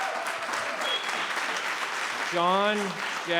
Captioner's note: cheering and applauding